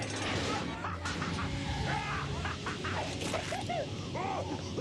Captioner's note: laughs